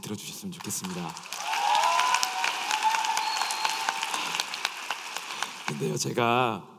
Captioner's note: applause and cheers